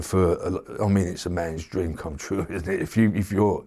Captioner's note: laughs